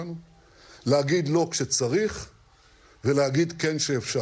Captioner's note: speaking in a non-english language